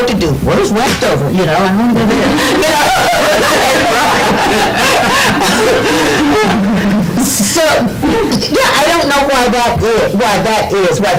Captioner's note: laughter